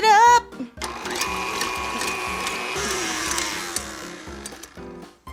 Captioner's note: mixer whirring